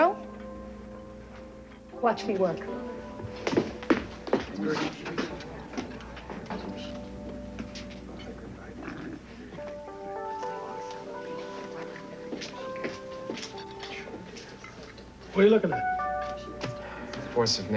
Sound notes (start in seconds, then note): 5.7 tapping